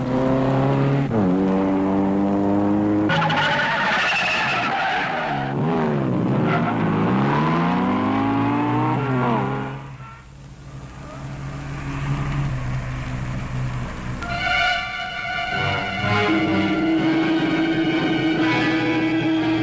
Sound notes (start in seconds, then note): 0.2 engines roaring; 2.9 tires squealing; 6.9 engine revving; 13.2 tense instrumental music